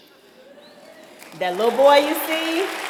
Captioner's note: applause